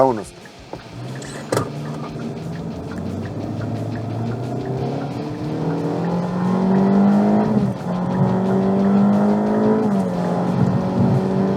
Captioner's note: engine revving up